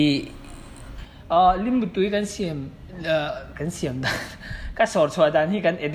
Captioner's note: chuckles